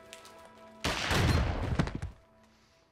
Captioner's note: gunshot